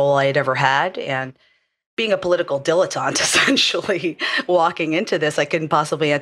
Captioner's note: laugh